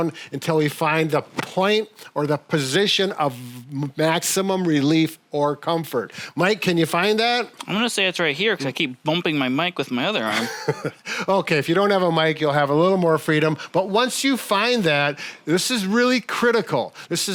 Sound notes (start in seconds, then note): 10.2 chuckles